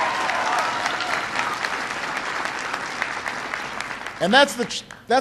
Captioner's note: applause